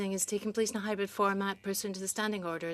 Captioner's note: speaking in French